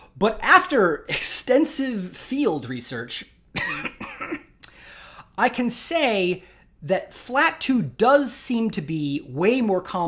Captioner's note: cough…